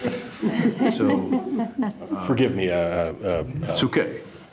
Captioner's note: all chuckling